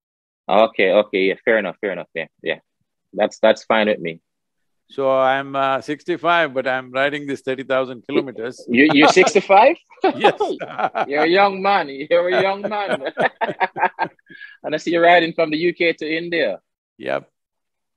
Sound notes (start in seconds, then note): 10.0 laughs; 12.1 both laugh